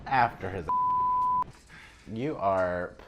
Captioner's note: beeping